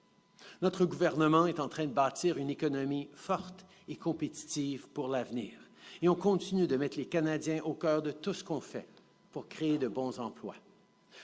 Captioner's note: speaking French